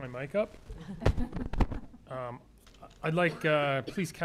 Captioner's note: laughter